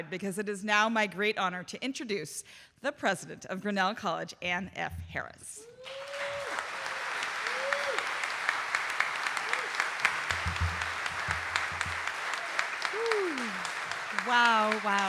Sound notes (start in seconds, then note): 5.7 audience cheering and applauding